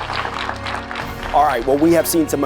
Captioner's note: audience applauding